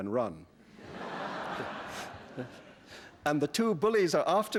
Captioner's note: laughter